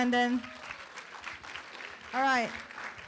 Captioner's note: room applauds